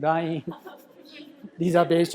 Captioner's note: chuckles; laughter in crowd